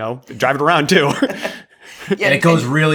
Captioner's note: laughs